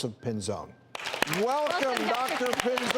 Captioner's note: applauding